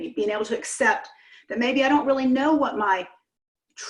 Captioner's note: none